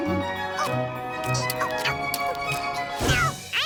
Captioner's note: moaning